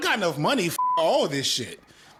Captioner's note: beep